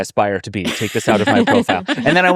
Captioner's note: laughing